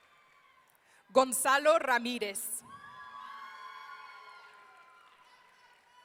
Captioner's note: audience cheering; audience cheering